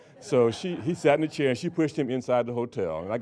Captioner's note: audience laughing